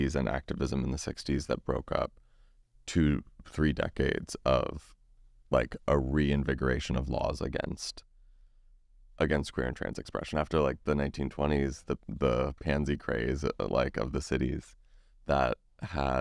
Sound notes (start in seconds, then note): none